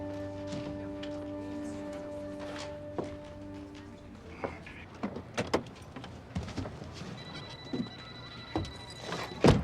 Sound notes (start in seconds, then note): 7.1 phone ringing